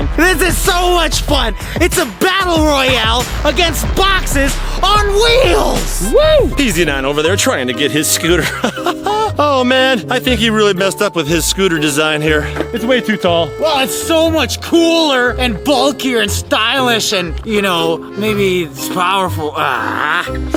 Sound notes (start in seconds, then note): 8.1 chuckles